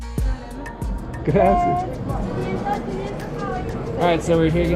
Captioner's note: speaking foreign language